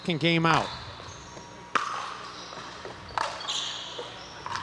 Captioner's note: ball bouncing